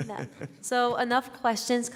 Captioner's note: laughter